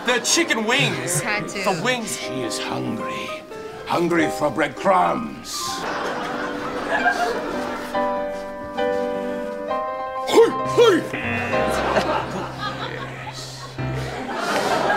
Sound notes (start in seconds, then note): 11.1 buzzer; 11.6 laughs